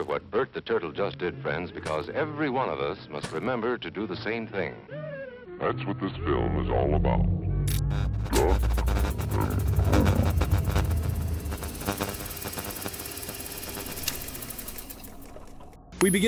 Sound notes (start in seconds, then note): 7.6 electricity buzzing; 9.8 distorts speech; 10.6 electricity buzzing; 10.6 projector clattering; 14.4 projector clattering fades